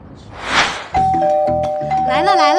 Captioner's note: ding-dong